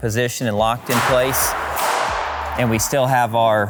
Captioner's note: hammer bangs in the distance